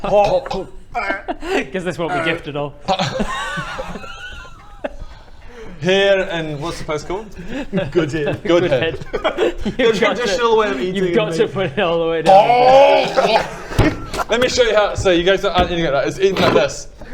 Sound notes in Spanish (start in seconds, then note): 0.2 egh; 0.8 hrgh; 3.0 risas